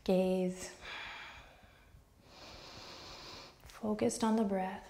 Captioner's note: strong breaths